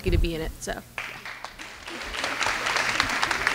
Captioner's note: clapping